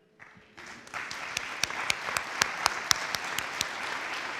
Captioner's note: audience applauding